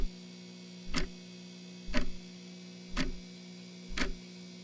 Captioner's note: clock ticking continues